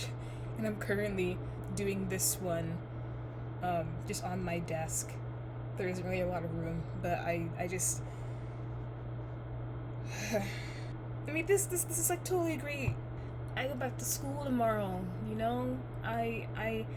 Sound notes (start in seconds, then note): 10.1 sigh